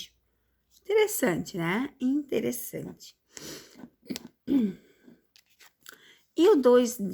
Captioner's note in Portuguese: limpando a garganta